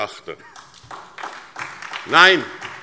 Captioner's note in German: Beifall SPD